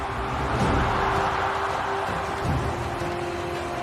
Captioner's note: crowd cheering